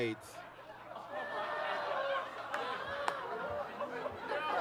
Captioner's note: audience laughs